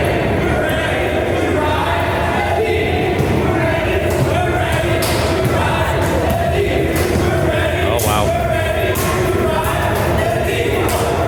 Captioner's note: chanting